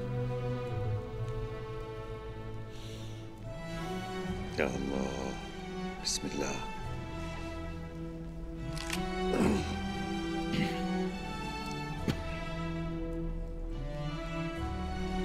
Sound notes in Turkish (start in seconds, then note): 0.0 Müzik - Duygusal; 8.6 Kemik sesi; 10.4 Öksürme sesi